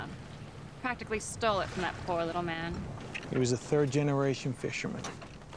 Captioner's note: none